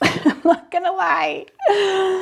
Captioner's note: laughs